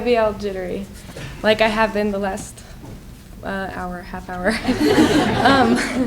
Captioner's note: laughing